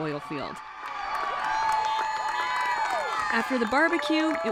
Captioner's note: cheers